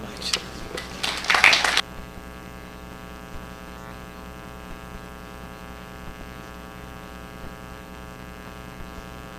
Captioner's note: applause